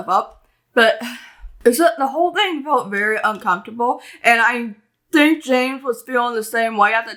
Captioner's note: sigh